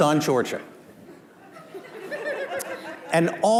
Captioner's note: laughter